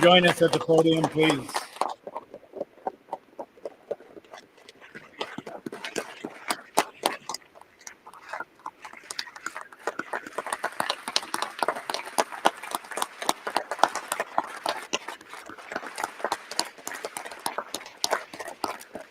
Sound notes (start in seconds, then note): 10.2 applause